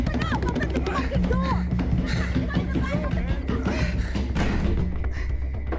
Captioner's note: banging on the door continues